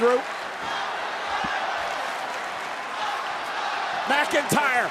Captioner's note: crowd chanting